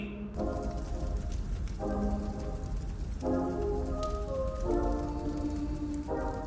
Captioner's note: fire crackles